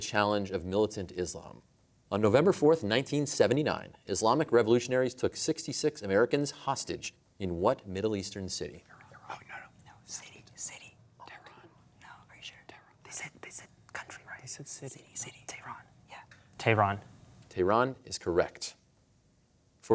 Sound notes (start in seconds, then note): 8.5 whispering